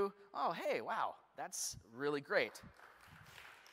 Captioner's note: applause